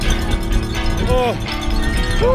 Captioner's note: groan